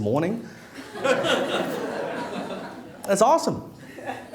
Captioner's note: laughing